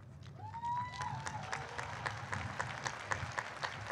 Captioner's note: applause